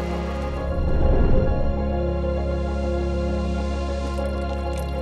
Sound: graphics whoosh; coffee trickling

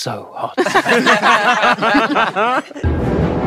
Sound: group laughs; dramatic music

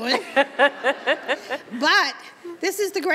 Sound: Chirlane laughs

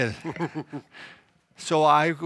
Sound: laughs

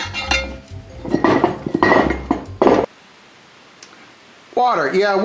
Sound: metal clinking

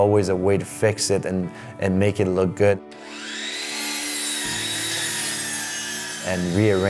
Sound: high-pitched electrical sawing

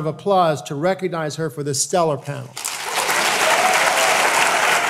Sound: applause

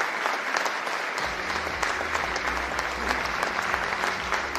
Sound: cheering and Applause

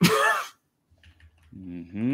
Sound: laughs

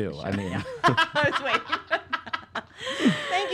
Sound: laugh

